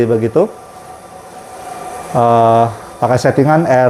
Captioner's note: printer machine noise